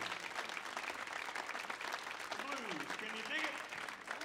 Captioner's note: audience applauds